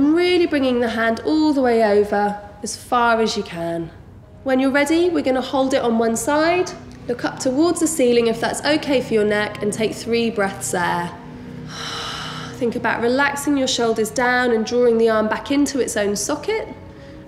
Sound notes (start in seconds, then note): 11.2 heavy breathing